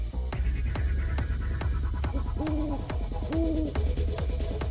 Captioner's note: dramatic music; insects chirping